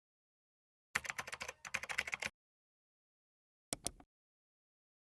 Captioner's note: keyboard clacking; mouse clicking